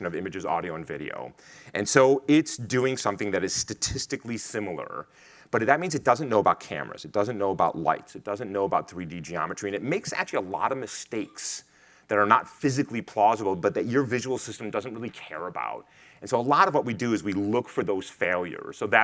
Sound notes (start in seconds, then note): none